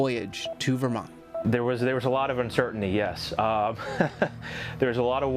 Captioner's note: chuckles